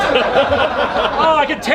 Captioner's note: everyone laughing